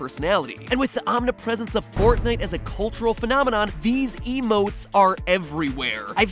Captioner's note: boom